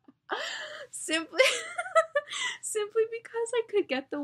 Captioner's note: laughs